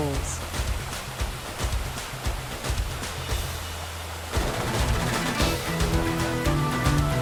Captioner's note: waterfall sound